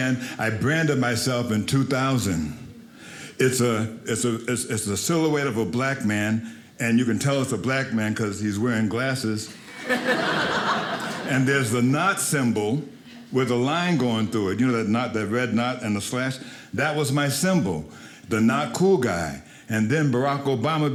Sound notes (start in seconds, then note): 9.5 audience laughing